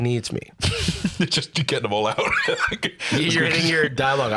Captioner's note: laughs